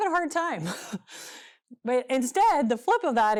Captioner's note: chuckles